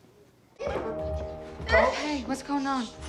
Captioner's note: grunting